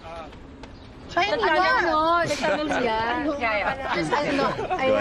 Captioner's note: overlapping chattering